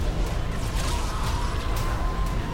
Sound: screaming

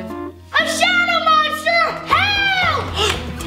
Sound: shouting

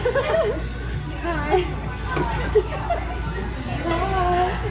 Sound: laughs

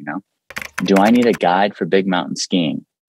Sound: keyboard clicking

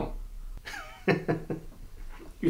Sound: Humfrey laughs

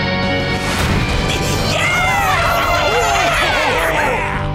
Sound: cheering

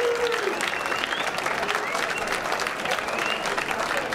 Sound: whistling

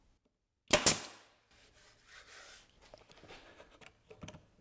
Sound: nail gun operating

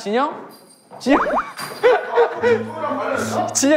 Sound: trying hard not to laugh

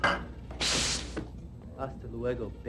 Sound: hissssssssss

